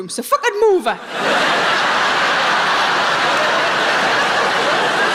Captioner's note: audience laughing